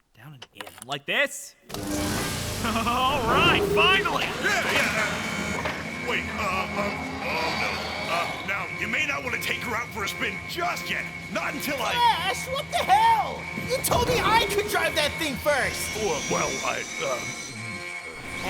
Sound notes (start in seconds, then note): 1.8 engine turns over; 4.5 honk alarm; 17.2 gulp